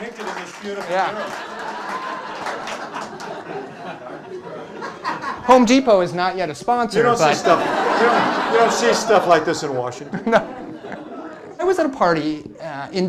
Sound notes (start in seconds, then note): 3.0 laughter; 7.0 laughter